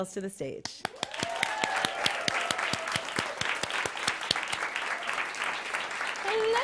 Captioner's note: applause